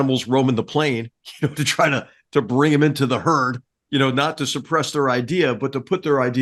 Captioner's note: laugh